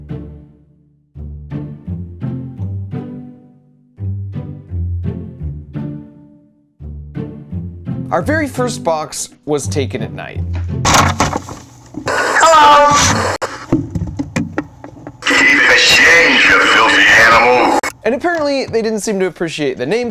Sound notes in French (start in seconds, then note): 10.6 choc de métal; 12.2 Voix robotique